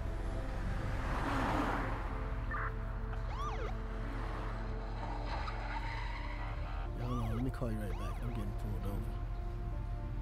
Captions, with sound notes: (cars whizzing) (siren bleeping) Hold on, let me call you right back, I'm gettin' pulled over.